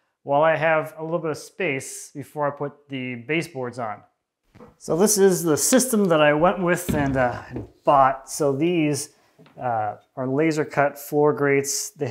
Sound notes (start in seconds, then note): none